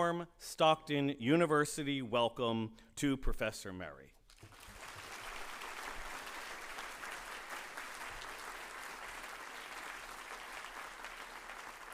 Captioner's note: applause